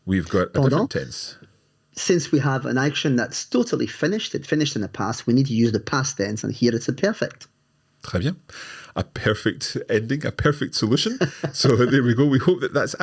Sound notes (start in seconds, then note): 8.5 speaks in foreign language; 11.0 laughs